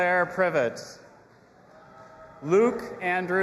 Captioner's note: audience applauding and cheering